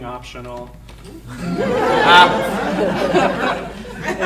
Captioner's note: audience laughing